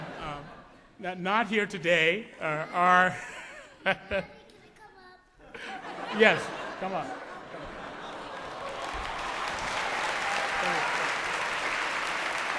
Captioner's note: applause, laughter